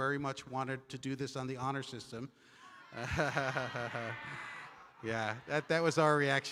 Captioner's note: chuckles